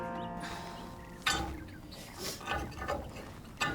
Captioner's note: Jenny sighs